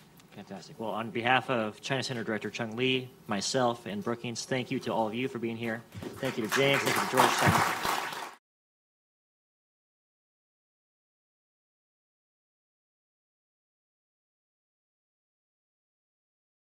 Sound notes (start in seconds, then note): 6.1 applause